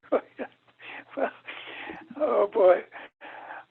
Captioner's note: laughs